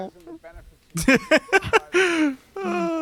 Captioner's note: laughs